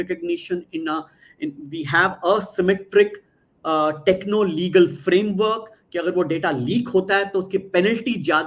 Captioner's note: non-english speech